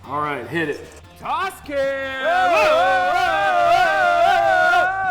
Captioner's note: both screaming happily